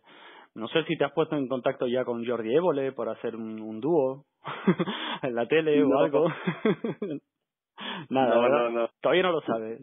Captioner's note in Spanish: risas